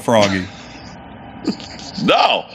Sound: laughing

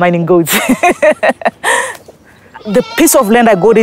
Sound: laughing

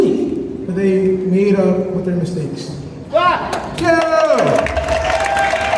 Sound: cheering

